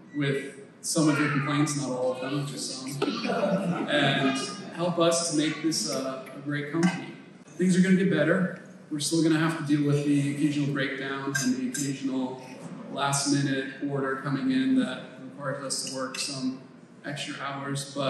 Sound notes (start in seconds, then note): 2.5 team members laugh